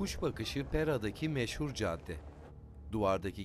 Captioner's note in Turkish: Sokak ortam sesi